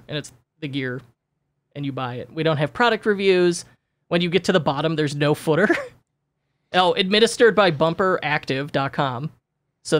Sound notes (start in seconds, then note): 5.6 chuckles